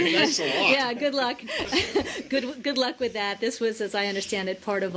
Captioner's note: laughter